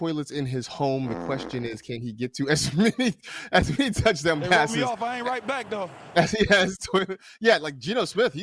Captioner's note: laughs